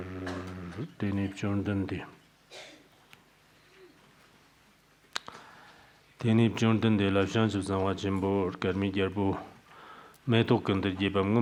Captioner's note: giving oral transmission in Tibetan